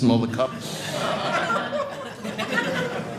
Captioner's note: audience laughing